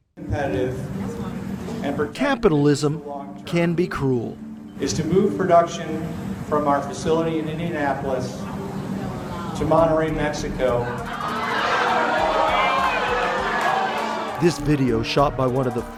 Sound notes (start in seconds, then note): 11.0 employees make boo sounds and are upset